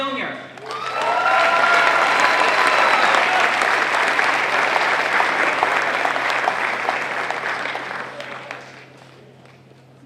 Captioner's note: applause